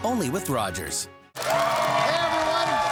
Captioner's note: cheers and applause